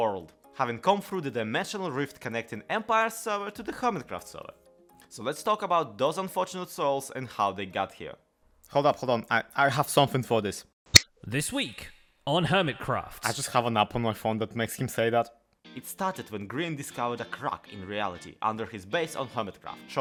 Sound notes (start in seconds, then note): 10.7 button clicks; 11.6 echoing